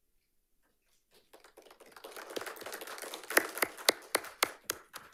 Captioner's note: audience applauding